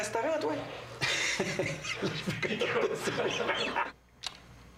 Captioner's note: rires